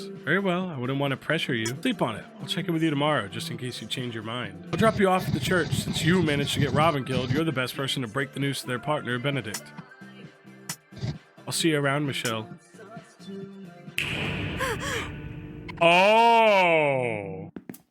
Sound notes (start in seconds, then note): 14.4 gasps